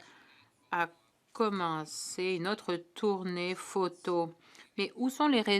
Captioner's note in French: voix de l'interprète